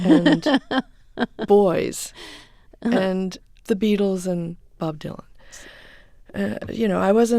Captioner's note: soundbite of laughter